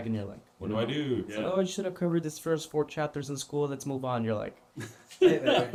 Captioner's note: laughter